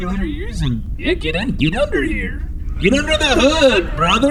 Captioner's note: way too excited